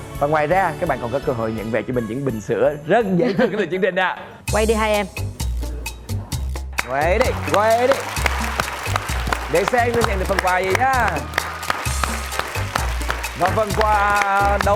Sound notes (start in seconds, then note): 7.1 applause; 7.2 cheering